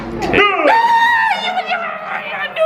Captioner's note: squeals